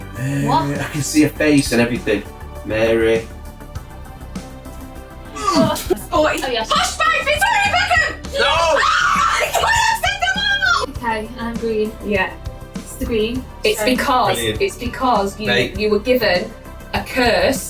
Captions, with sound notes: - I can see her face and everything. Mary. (groaning) - Posh Spice Victoria Beckham! - No! - Ah! - My God! I've said them all! - Okay, I'm green. - Yeah. - It's green. - It's because. - It's because you were given a curse,